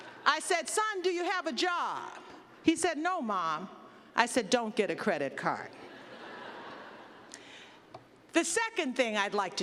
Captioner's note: laughter